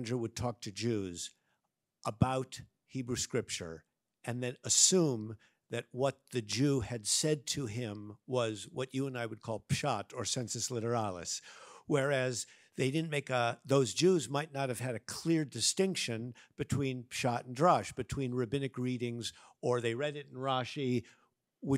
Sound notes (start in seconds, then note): 9.7 speaks in Hebrew; 10.9 speaks in Latin; 16.8 speaks in Hebrew